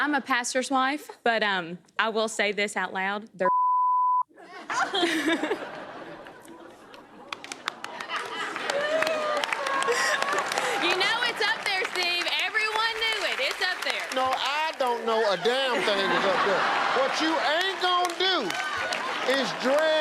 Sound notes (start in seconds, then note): 4.3 chuckles; 8.7 applause